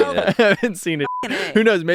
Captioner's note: beep